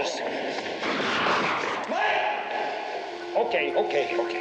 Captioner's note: gunshot